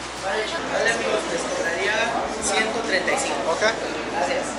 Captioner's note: speaking Spanish